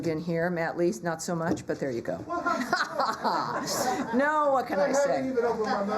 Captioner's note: laughter